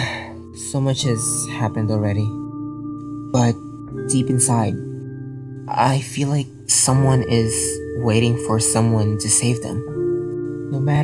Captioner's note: sighs